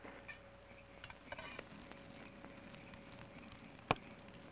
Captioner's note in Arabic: فرقعة النار